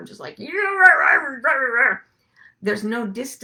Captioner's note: grunts